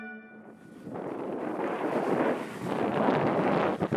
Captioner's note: wind whistles